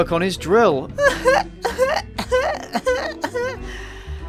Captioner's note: choking on his own laughter